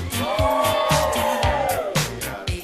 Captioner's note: whoo